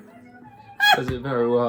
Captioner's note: laughs